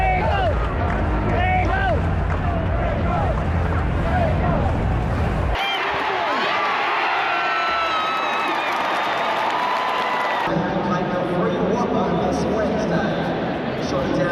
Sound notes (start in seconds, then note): 6.5 crowd cheering